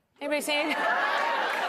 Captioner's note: cheers and applause